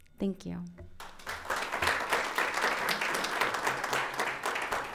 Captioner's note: audience applauds